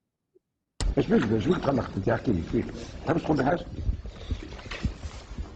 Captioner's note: speaks in foreign language